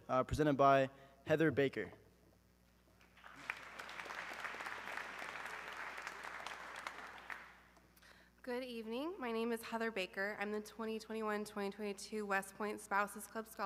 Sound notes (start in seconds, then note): 3.0 audience clapping